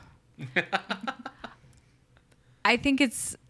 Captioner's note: laughs